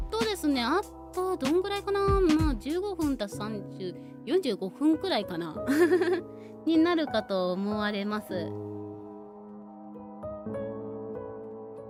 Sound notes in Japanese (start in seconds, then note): 5.7 笑い